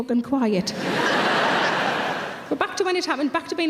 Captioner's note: audience laughing